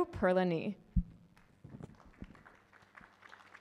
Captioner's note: applause